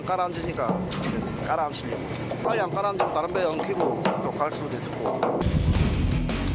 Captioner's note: spraying water